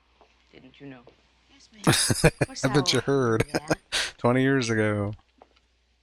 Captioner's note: chuckling